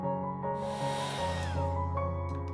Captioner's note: whirring